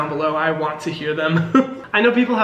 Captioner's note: laughing